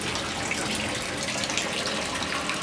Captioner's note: rippling